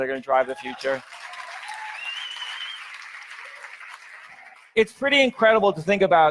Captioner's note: audience cheers; audience applauds